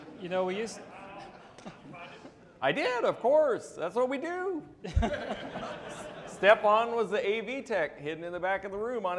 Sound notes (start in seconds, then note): 4.8 audience laughing